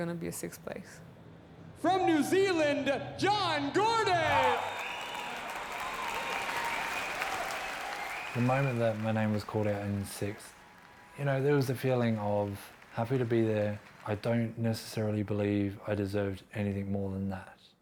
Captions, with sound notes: going to be a sixth place. - From New Zealand, John Gordon! (applause) (cheering) - The moment that my name was called out in sixth, you know, there was the feeling of happy to be there, I don't necessarily believe I deserved anything more than that.